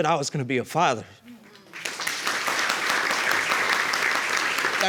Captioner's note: applause